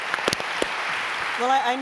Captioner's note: applause